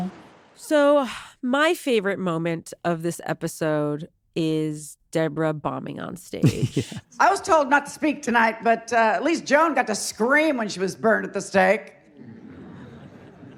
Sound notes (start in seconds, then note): 6.4 chuckles; 11.9 audience murmuring